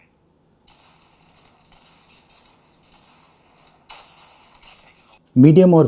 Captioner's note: shot firing sound in the game